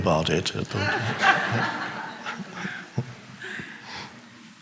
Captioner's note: audience laughing